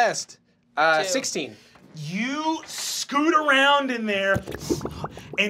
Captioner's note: gurgling